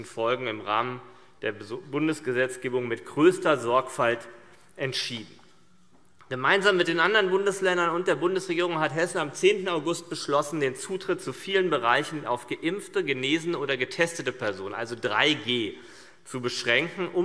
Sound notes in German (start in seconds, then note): none